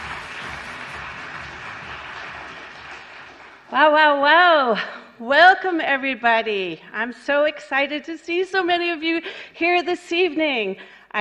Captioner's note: applause